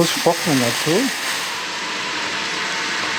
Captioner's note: hissing